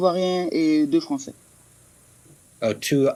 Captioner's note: answers in French